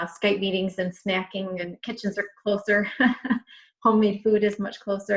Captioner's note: chuckles